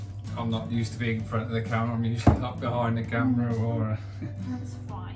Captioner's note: chuckles